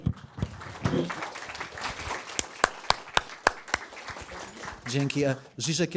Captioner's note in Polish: Aplauz